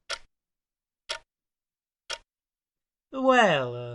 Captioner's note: clock ticking